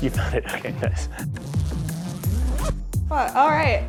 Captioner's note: zipping